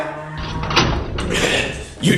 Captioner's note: door